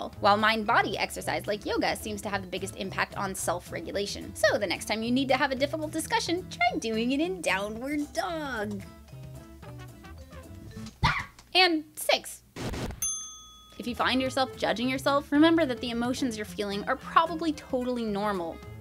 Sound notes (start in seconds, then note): 13.0 ding